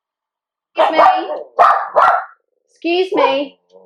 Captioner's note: dog barking